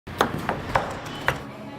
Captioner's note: cutting noises